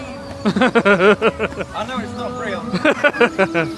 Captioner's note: laughing